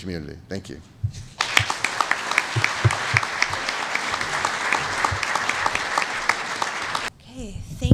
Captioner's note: applause